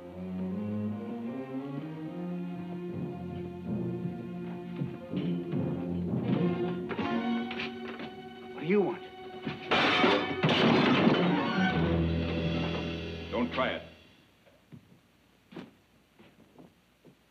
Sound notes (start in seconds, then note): 9.5 dishes clatter; 11.5 dramatic music